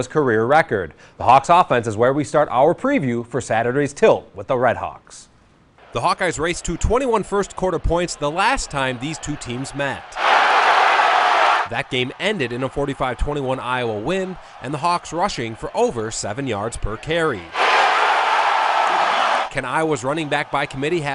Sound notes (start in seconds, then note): 13.8 crowd